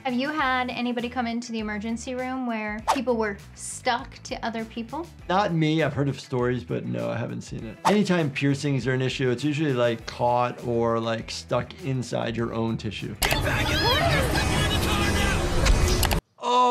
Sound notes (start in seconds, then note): none